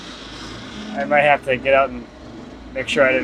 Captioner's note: laughs